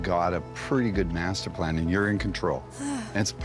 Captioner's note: sighs